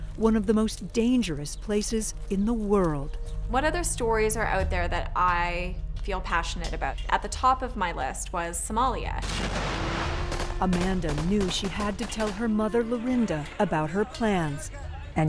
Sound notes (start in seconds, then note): 9.2 gunfire; 9.2 booming